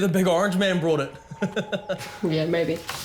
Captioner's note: laughs